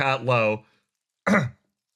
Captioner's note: cough